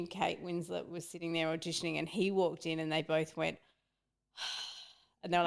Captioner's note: sighs